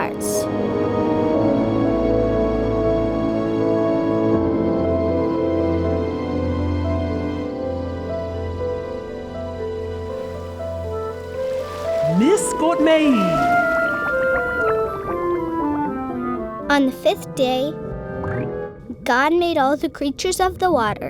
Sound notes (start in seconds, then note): 0.3 piano music; 12.0 voice speaking gibberish